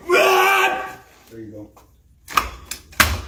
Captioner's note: screaming